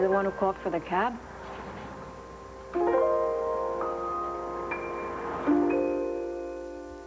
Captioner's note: brooklyn accent